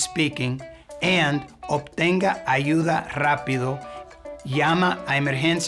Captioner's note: speaking in Spanish